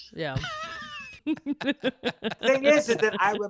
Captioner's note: all laughing